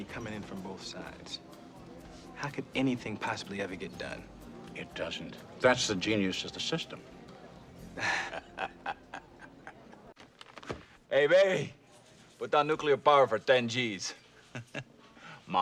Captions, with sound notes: With all this money comin' in from both sides, how could anything possibly ever get done? It doesn't. That's the genius of the system. [Thomas, Terry Laugh] Hey, baby, put down nuclear power for ten G's.